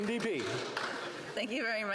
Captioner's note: applause